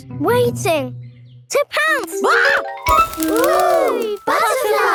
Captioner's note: screams